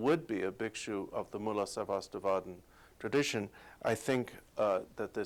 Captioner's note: non-english speech